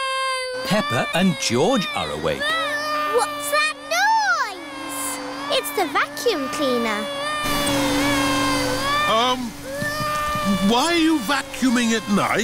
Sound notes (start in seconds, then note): 1.2 vacuum cleaner whirring; 7.7 crying